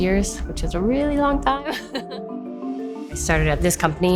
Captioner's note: chuckles